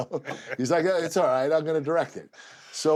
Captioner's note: laugh